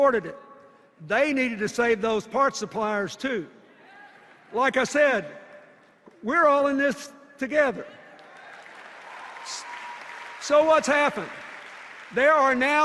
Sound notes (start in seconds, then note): 8.1 cheers and applause